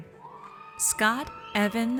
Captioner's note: audience cheers